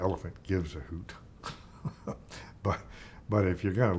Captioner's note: chuckling